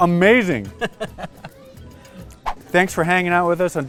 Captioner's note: laughing